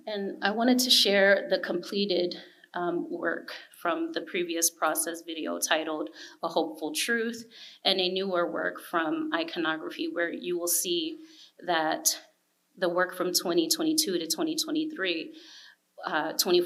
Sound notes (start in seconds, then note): none